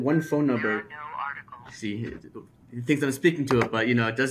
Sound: computer Voice

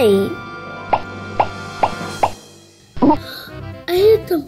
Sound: popping sounds

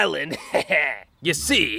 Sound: laughs

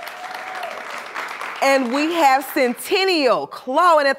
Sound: applause

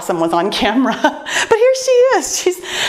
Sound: laughs

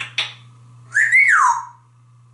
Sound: whistle

